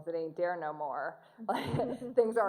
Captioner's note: laughter